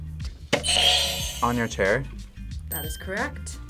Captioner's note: buzzer rings